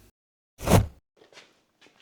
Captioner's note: grabbing sound